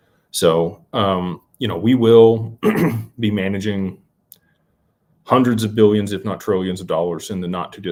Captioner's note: clears throat